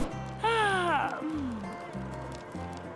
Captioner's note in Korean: 하품